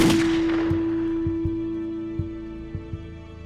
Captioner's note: gun fires; ominous music